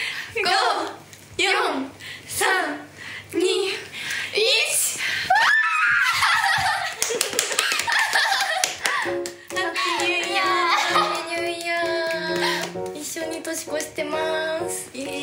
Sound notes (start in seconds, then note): 6.9 applause